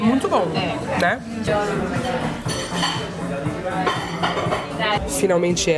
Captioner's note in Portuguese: ambiência de restaurante